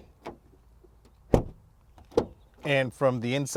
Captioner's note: closing door muffled sound